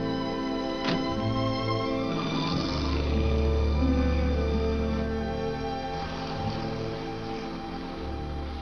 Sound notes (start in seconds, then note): 0.8 car door closes; 2.3 car drives off